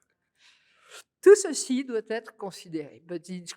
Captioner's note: speaking french